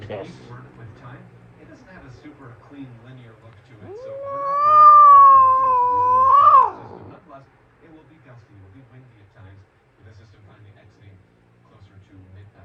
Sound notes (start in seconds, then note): 3.8 meows in anger